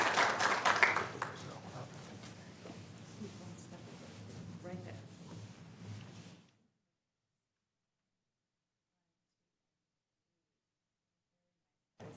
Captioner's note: applause